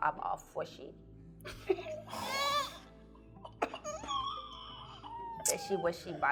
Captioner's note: laughing; squealing